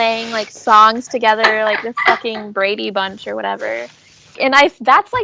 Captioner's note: laughs